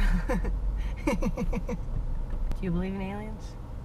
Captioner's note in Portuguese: risos